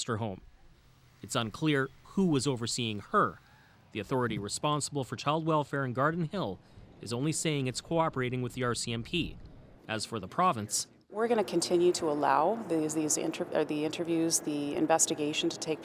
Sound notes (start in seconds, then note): none